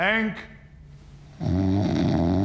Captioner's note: snoring